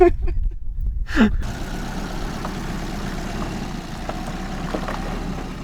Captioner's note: car engine revving